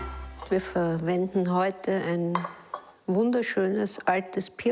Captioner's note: speaking foreign language